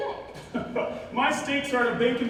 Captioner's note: Barbicane laughs